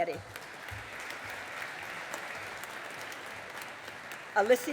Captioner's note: audience applauding